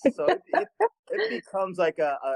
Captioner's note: laughs